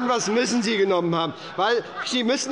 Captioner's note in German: Heiterkeit bei der SPD, der LINKEN und der FDP - Zurufe von der CDU